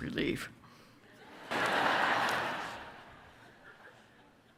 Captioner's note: audience laughs